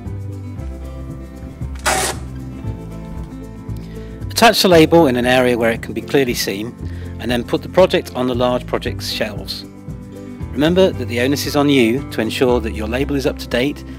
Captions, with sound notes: *tearing sound* attach the label on an area where it can be clearly seen and then put the project on the large project shelves. remember that the onus is on you to ensure that your label is up to date,